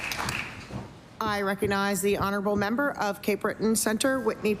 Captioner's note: applause